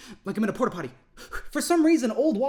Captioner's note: breathes in